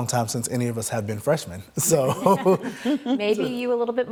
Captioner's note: laughs